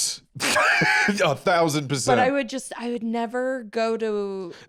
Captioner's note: laughs